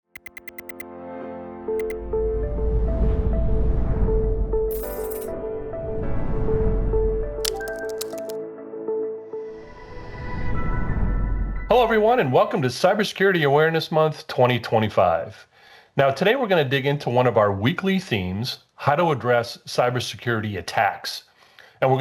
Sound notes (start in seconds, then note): 0.2 gentle music; 7.4 keyboard clacking